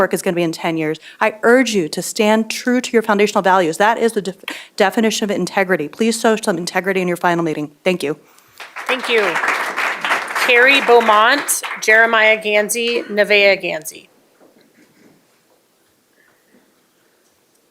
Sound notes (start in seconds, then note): 11.9 applause